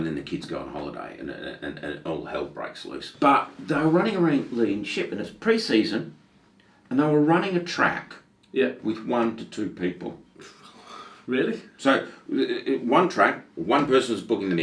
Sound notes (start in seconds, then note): 10.4 gasping